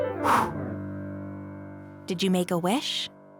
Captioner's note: exhaling